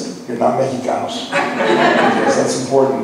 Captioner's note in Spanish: laughs